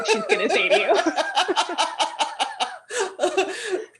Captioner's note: laughter